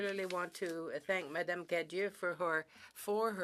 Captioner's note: speaking French